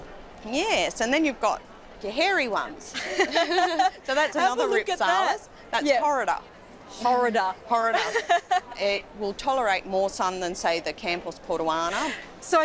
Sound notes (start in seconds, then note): 2.9 both laugh; 7.9 laughs